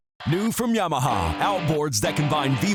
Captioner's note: voiceover